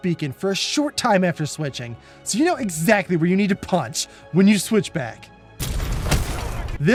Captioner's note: punch